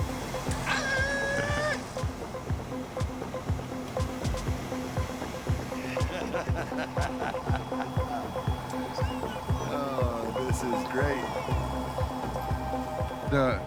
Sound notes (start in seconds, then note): 0.6 cheers; 5.6 laughing